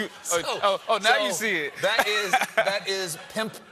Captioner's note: laughter